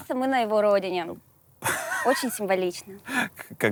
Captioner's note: Dud laughs